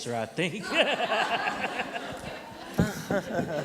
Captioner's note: laughter